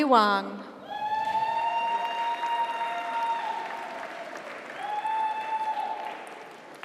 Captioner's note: audience cheers; audience applauds